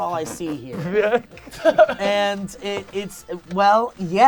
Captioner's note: laughing